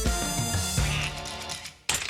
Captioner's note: quacks